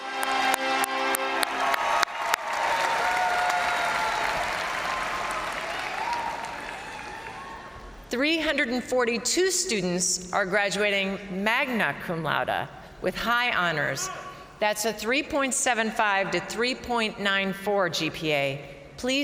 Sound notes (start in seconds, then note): 0.0 crowd cheering; 14.0 crowd member shouting